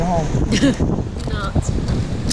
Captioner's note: laughing